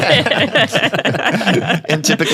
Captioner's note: panel laughing